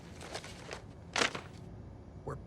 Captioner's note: money thuds